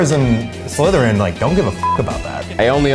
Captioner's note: beep